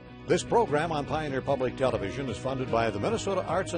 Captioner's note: voiceover